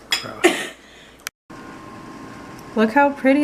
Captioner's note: coughs